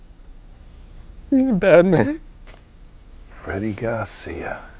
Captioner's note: crying